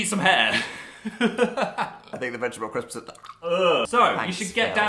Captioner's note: gaggs